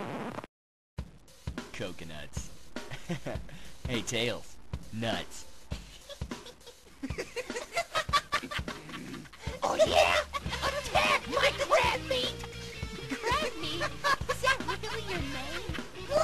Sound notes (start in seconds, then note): 5.8 chuckles; 5.8 laughing